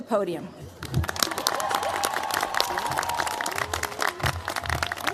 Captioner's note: cheers, applause